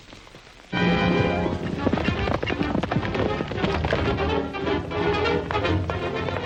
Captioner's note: hooves clomping; dramatic music